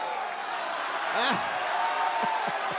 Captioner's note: crowd cheering